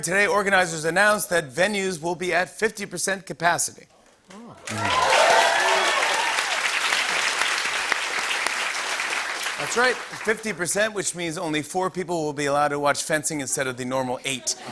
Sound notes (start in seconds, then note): 4.6 cheers and applause; 14.3 laughter